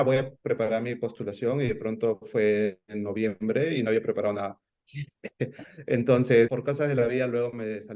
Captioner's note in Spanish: risas